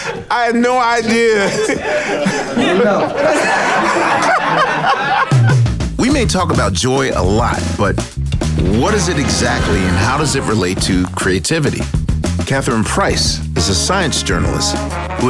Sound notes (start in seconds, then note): 1.7 people laughing